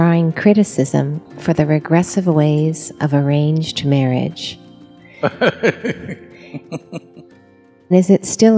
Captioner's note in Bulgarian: Садгуру се смее